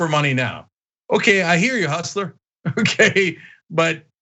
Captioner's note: laugh